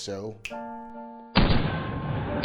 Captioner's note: snaps fingers; gunshots bang repeatedly